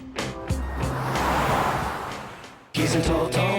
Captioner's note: car moving sound